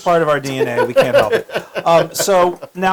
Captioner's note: laugh